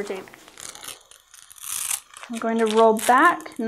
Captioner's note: peeling